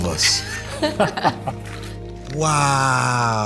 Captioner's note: laughs